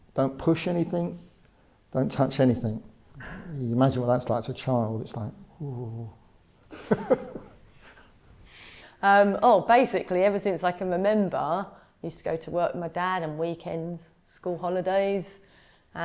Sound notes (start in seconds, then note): 6.7 laughs